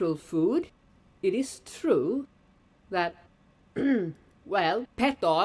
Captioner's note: clears throat